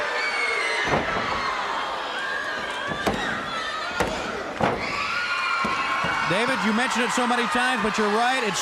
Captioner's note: crowd cheering